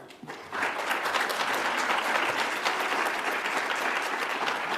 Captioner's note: audience applauds